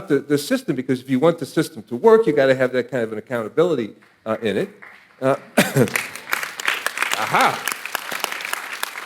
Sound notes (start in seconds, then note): 5.2 audience applauding